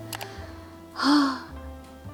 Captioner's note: sigh